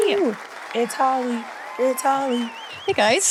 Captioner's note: audience applauds; audience cheering